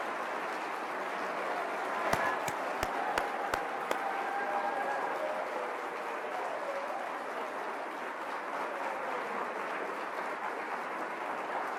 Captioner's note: applause